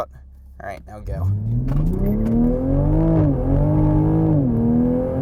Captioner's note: engine revving